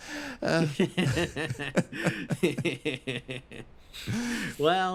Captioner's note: laughs